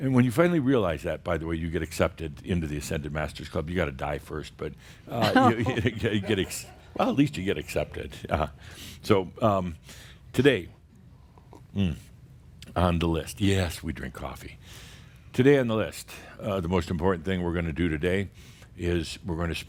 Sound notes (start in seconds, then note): 6.2 a few chuckles